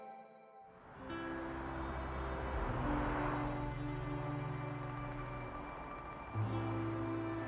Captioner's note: soft music; cars whooshing softly